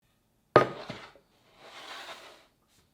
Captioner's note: board sliding